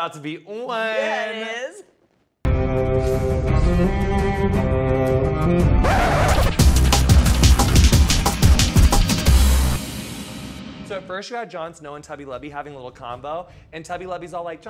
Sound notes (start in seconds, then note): 2.2 dramatic music; 5.8 record scratching; 5.9 upbeat dramatic music